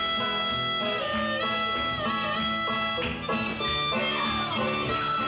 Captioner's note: audience cheers